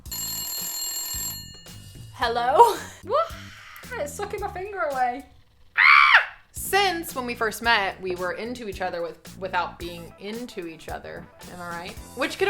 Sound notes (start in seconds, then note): 0.0 cell phone rings; 5.7 screams